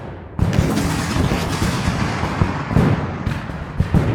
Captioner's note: cannons fire